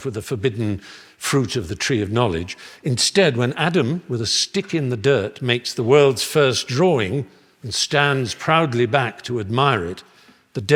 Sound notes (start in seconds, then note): none